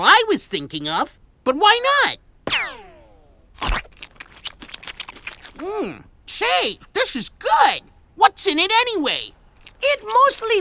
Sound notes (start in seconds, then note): 3.6 chewing